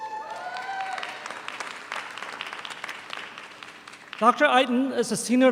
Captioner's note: audience applauds